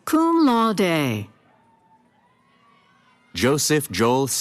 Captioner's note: cheering